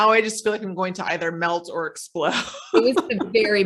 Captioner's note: laughs